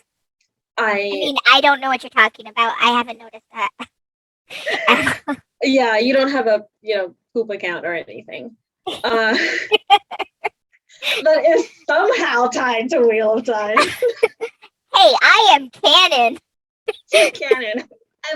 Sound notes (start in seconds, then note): 13.7 laughs